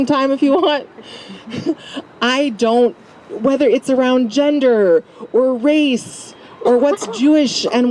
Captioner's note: laugh